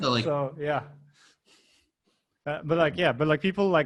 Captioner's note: laughing